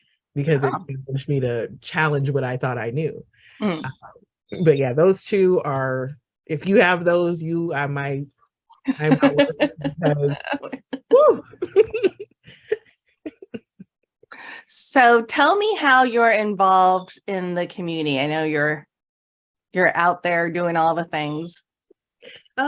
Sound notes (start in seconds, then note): 8.8 laughing